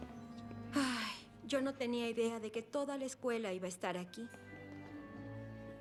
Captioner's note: sigh